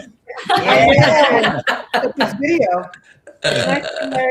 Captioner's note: laughter